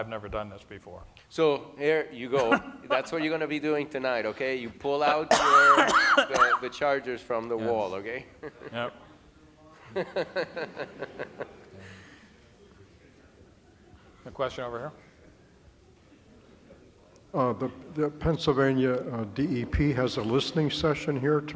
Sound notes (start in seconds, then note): 9.8 laughter